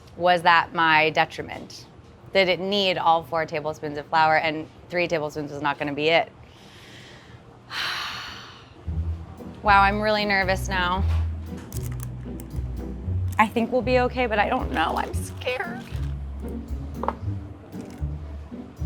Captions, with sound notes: was that my detriment? Did it need all four tablespoons of flour and three tablespoons is not gonna be it? [sighs] Wow, I'm really nervous now. [playful orchestra music] I think we'll be okay, but I don't know. I'm scared.